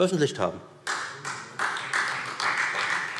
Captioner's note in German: Beifall Freie Demokraten